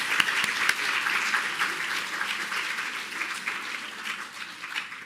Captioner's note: applause